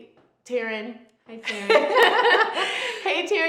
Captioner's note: both laughing